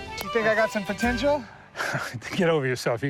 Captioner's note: laughs